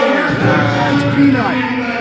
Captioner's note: announcer on speaker